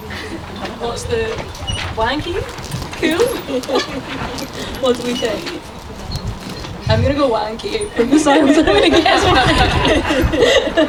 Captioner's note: laughter